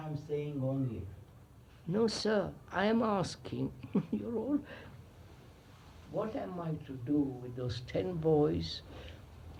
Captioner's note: laughs